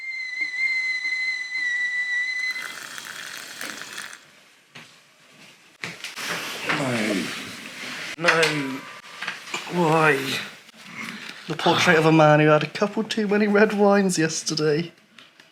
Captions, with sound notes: [Whistling sound of kettle] [Sound of hot water poured into the mug] No... No..! Why?! The portrait of a man who had a couple too many red wines yesterday...